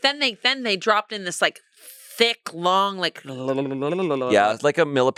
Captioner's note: makes sound effects